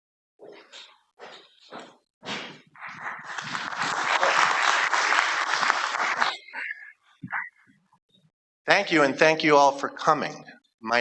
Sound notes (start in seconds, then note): 3.0 applause